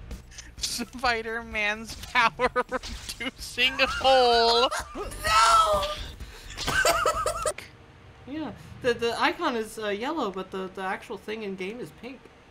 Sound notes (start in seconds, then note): 6.4 coughing fit 3